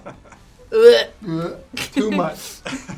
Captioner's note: gagging noises